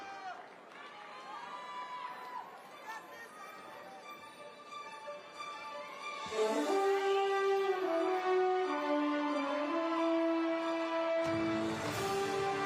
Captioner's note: applause